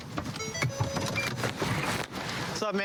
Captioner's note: car notification bell dings